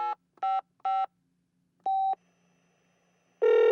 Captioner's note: phone sound